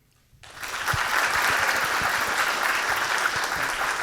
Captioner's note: audience clapping